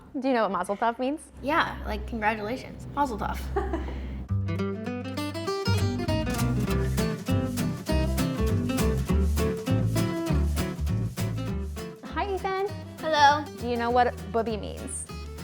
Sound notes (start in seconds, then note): 3.5 interviewer chuckles; 5.1 light music